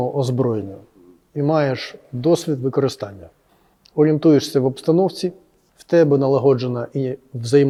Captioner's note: none